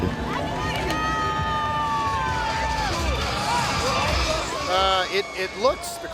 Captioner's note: crowd cheering loudly